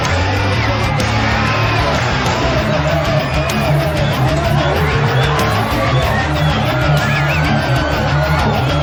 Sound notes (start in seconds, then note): 4.2 bull bellowing